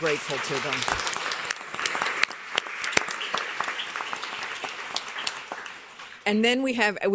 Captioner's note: applause